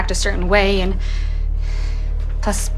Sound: sighs

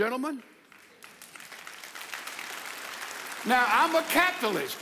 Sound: audience applauds

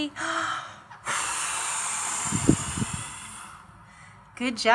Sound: air blowing

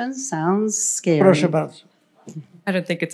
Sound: foreign language

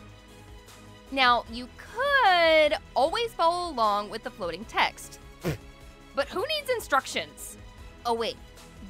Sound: pffft

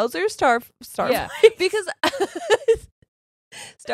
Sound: both laughing

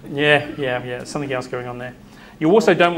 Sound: off mic

